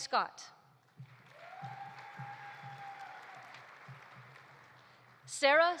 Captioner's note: audience applauding; audience cheering